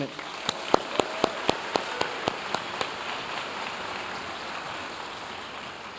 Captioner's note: audience cheering and applauding